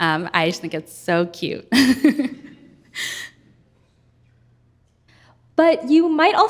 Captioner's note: chuckles